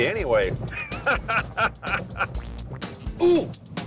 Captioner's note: laughing